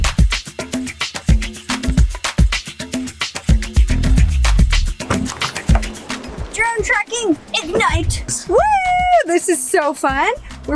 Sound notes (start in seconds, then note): 0.1 upbeat rock music; 5.0 vehicle door opens